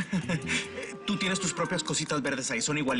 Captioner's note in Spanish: Ríe